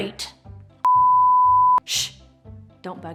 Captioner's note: production screen beeping